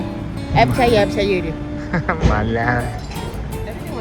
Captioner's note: laugh